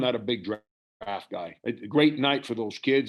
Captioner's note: murmurs